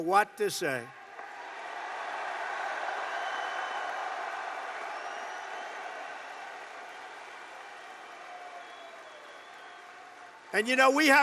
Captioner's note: applause